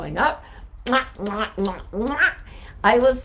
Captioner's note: blowing kisses